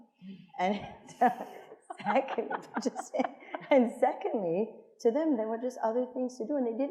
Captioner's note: laughs